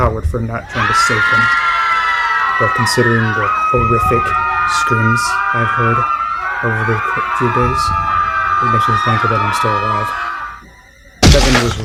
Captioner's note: his friends and brothers screaming in fear and pain